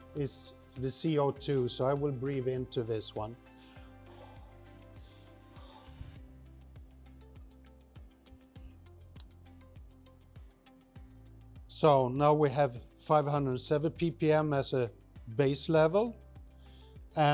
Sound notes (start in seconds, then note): 3.5 exhaling